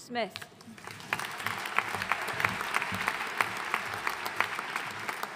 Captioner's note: audience applauding